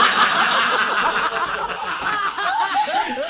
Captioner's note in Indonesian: tertawa